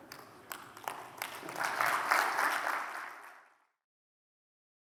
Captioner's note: audience applauds